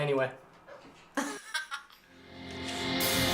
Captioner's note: laughter